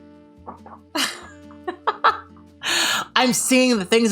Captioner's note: laughing